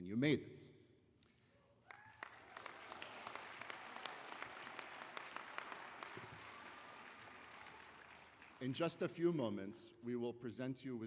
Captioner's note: applause